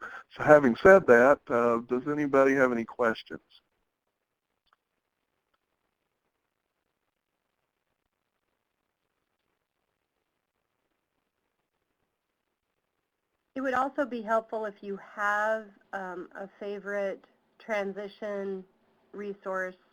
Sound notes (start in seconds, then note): 13.8 voiceover